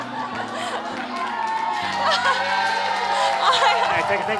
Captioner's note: laughter; cheering